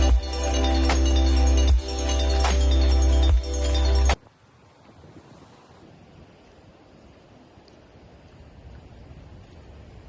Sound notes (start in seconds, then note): 4.2 wind whooshing